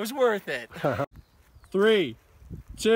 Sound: laughter

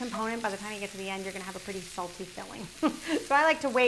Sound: chuckles

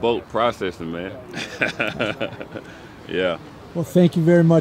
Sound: laughs

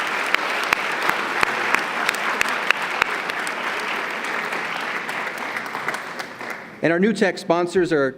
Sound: applause

